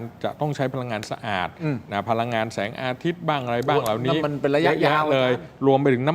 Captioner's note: clears throat